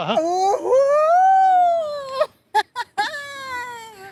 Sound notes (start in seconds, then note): 2.5 laughs